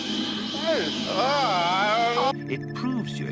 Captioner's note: disgusted hyper space noises